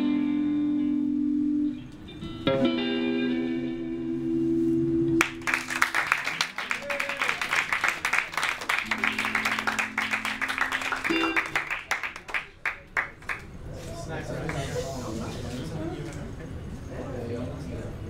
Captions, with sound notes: (audience applauds) - It's nice right?